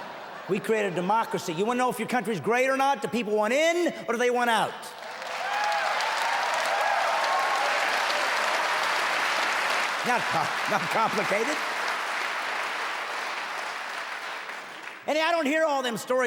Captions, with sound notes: On purpose. [the audience keeps laughing] We created democracy. Wanna know if your country's great or not? The people want in or they want out! [cheering audience] Jackpot! Is that complicated?